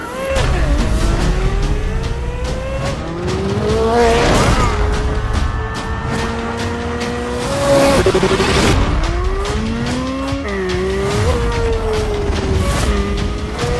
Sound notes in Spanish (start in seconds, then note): 2.1 engine sounds